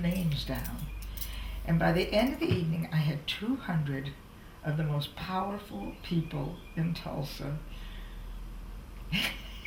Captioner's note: laughs